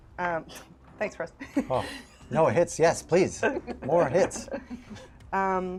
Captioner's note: laughs